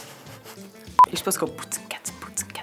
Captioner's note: network beep